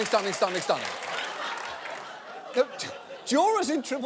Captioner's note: audience laughing